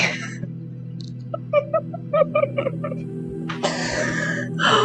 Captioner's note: laughter